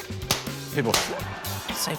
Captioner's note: pop!